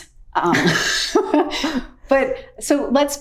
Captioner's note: both laughing